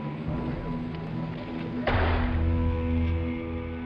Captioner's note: gun bangs; somber music